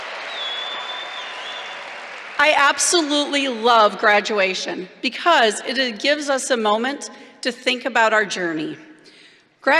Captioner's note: cheers